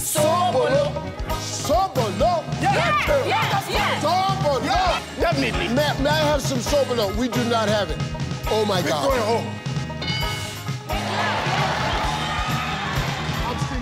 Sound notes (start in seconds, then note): 9.2 scoreboard dings; 10.9 audience cheers